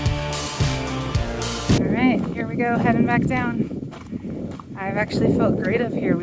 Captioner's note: music stops, wind noise begins again, along with gravel crunching